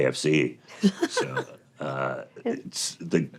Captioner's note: laughter